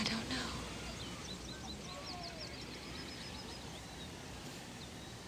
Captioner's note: birds chirping